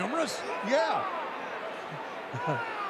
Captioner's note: laughs